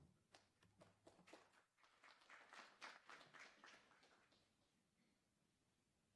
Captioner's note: applause